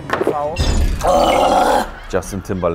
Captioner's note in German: Angeekelte Laute